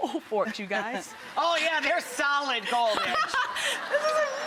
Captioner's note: laughs